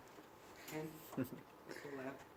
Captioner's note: laugh